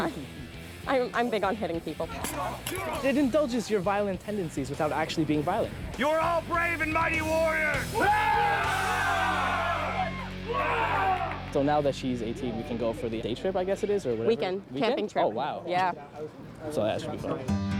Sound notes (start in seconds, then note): 7.7 cheering